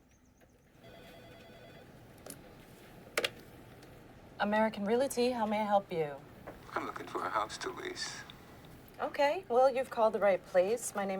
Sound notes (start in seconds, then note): 0.8 telephone ringing